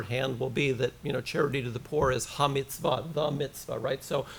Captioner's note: foreign language